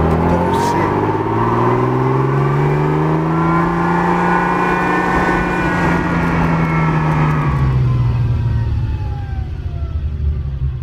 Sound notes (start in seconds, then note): 2.0 Dino V6 intake sound